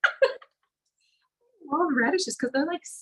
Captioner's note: laughs